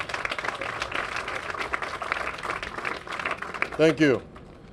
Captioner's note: applause